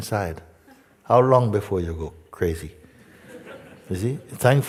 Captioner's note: Lachen